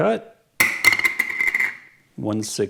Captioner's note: plunk sound